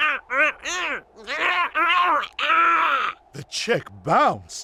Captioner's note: angry penguin noises